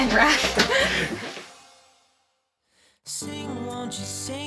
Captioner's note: giggling